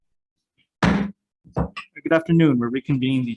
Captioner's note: gavel strikes